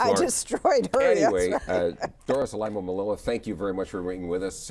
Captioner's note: laughs